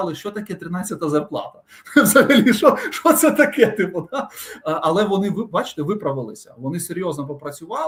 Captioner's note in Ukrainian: сміх